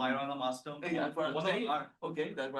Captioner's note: people chatter